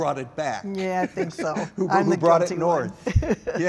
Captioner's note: laugh; laughter